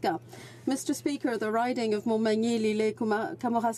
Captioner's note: speaking French